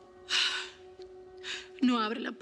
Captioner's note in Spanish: suspiros